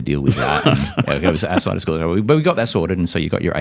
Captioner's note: laughs